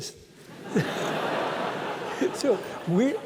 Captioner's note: laughter